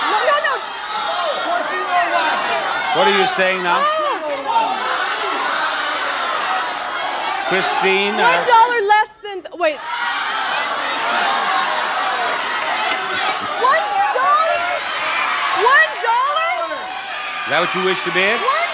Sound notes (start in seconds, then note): 1.1 audience yelling; 5.0 audience yelling